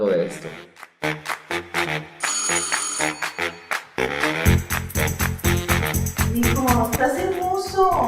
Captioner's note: applause